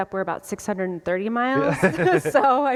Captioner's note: laughter